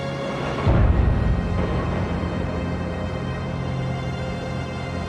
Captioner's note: gunfire and explosions